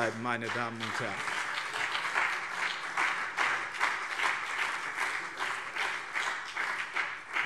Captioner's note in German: Beifall BÜNDNIS 90/DIE GRÜNEN und CDU